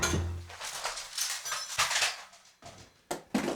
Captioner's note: bat thuds; loud crash